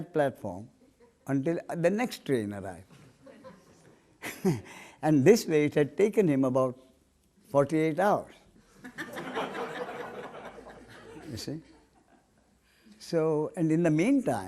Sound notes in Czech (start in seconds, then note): 8.8 smích